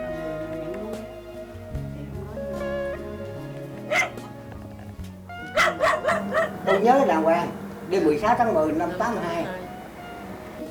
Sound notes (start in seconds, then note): 3.9 barking